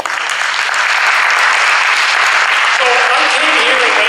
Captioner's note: audience applauds